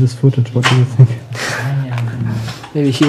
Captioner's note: he laughs